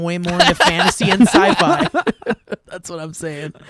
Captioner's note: guys laughing